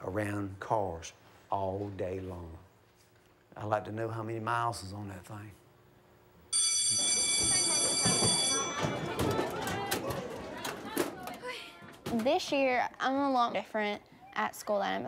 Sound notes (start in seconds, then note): 6.5 school bell ringing